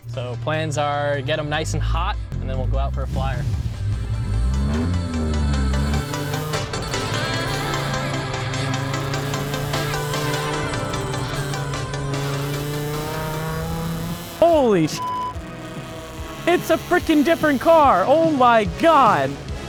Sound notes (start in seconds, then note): 4.6 upbeat music; 15.3 beeps